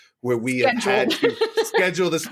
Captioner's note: laughs